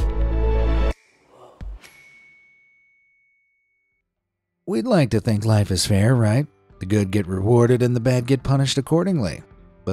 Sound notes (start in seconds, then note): 1.8 bell dings